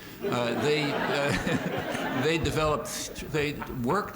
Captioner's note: laughter